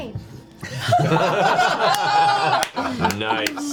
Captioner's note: all laugh